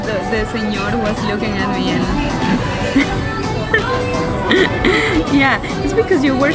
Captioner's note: laughs